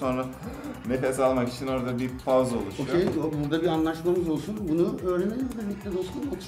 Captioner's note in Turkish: Derin nefes alır